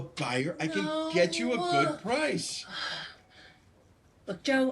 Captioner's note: sighs